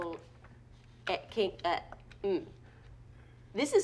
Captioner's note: stuttering